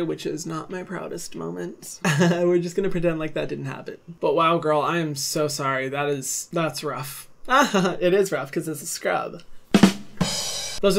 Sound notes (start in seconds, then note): 7.5 laughs; 9.7 drum sound